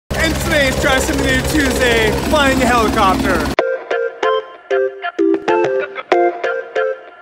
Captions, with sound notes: - And today's Try Something New Tuesday. Flying a helicopter. (helicopter thumming) (pop music)